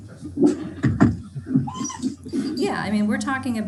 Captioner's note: dog whimpering drowns out speech